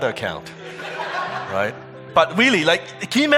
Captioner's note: audience laughing